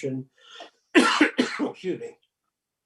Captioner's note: coughs